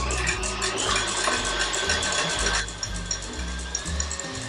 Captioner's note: electric whisk whirring